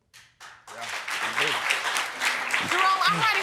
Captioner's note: audience applauding